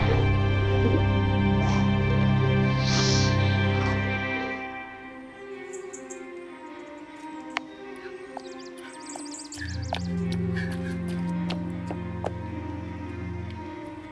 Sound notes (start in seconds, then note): 0.9 snakes hissing; 4.6 dramatic music; 7.8 birds chirping; 10.7 gentle upbeat music